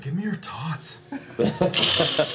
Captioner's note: Napoleon Dynamite voice